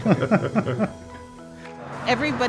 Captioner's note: laughs